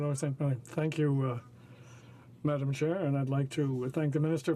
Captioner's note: speaking French